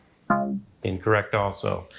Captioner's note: womp chimes